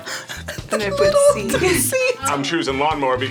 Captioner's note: laughs